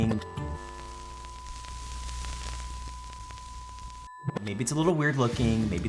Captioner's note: static crackles; signal whines